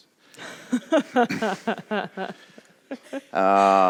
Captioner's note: laughs